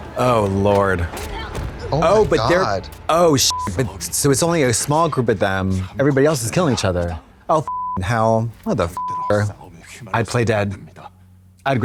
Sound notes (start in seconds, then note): 3.4 beep; 8.9 beep